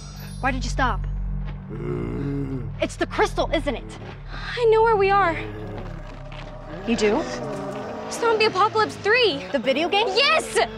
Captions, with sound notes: Why did you stop? [groaning] It's the crystal, isn't it? I know where we are. You do? Zombie Apocalypse 3! - The video game? - Yes!